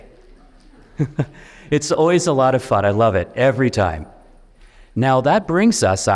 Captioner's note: chuckles